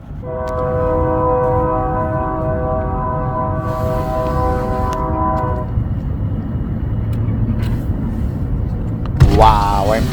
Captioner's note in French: Klaxon de train